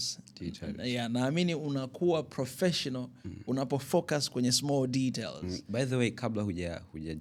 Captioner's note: clearing your throat